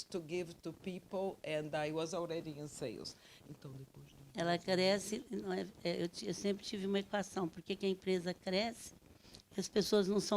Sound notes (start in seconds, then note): 4.5 speaking Portuguese